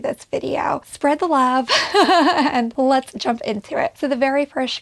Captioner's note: laughs